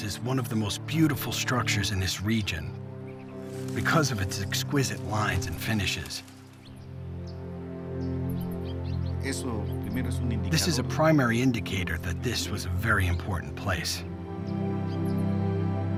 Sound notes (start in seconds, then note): 7.8 speaking Spanish